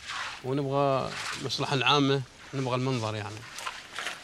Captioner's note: Arabic spoken audio